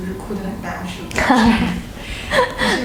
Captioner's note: chuckle